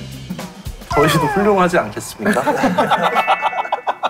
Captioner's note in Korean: 울먹